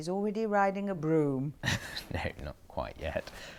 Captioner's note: Harry laughs